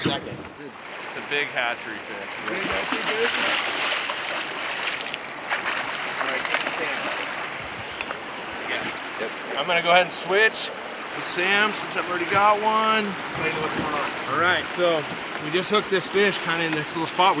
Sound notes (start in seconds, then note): 4.4 fish splashing; 5.2 background chatter